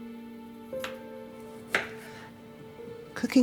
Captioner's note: knife chopping